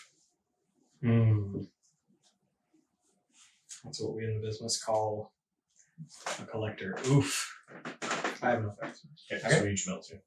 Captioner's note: oof